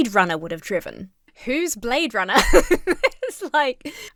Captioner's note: laughs